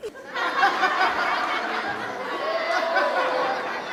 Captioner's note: laughter